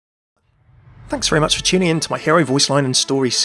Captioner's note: voiceover